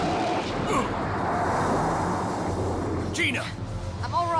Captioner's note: tires squeal; grunts